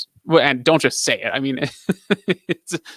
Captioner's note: laughs